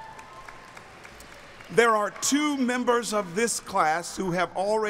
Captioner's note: applauding